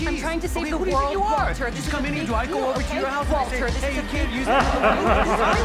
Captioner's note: laughs